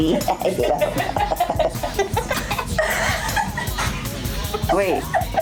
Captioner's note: women laughing